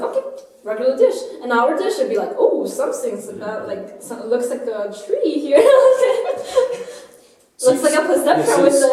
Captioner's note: laughter